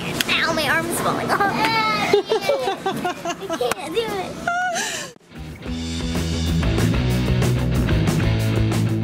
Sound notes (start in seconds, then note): 1.3 laughing; 5.2 rock music